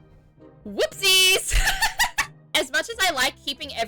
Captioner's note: laughs